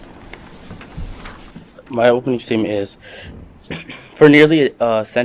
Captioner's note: paper rustles